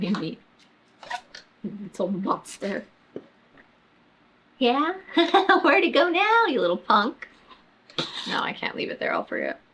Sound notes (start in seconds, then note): 5.1 laughs